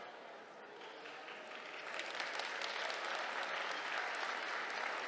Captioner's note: applause